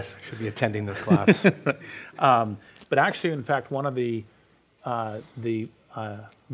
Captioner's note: laughs